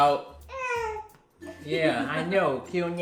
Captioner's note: whimpering